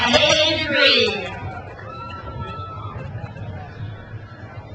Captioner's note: crowd cheers